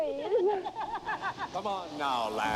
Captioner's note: laughs